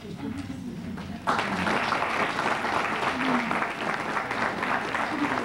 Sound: applause

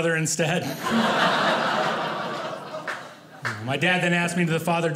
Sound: audience laughing

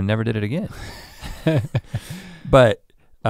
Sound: chuckles

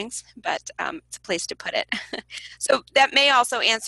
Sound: laughs

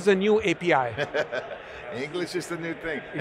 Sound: chuckling

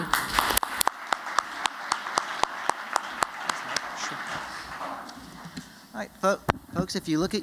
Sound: applause

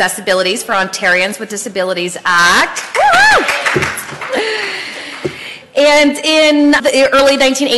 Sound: applause and cheering

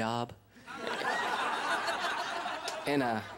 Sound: laughter

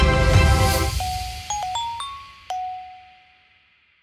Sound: phone ringing

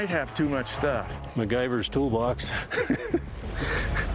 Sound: laughing

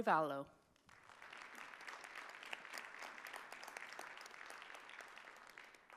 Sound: audience applauding

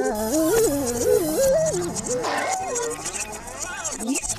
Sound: audience applauds

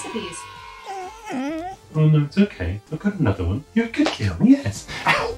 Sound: dog whines

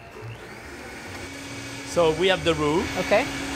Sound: blender starts

